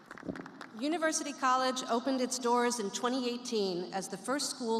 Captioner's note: applause